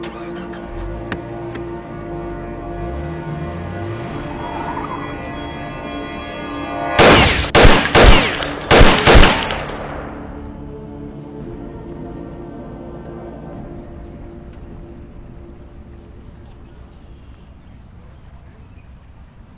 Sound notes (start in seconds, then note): 0.0 car engine starting; 7.0 gun firing; 13.6 birds twittering